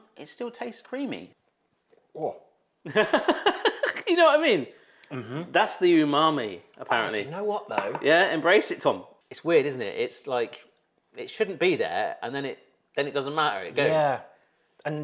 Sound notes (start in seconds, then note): 2.9 host laughs